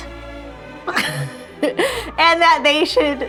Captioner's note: laughing